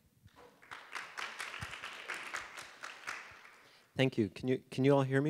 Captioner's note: audience applauding